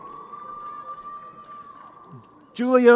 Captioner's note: crowd cheering